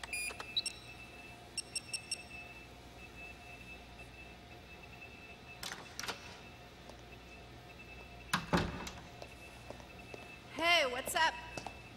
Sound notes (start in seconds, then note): 0.0 beeping